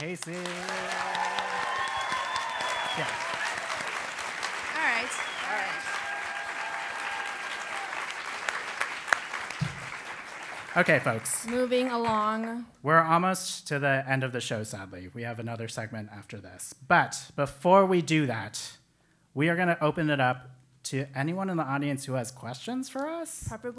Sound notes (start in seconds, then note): 1.5 applause; 7.2 applause